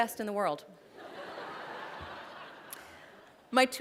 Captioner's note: laughter